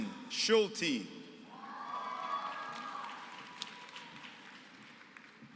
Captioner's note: applause